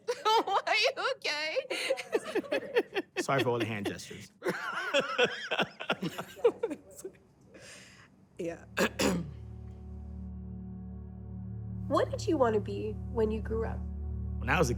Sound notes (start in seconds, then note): 2.7 laughs; 6.1 laughs; 8.8 clears throat